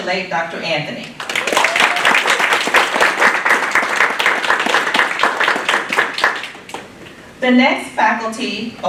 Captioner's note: applause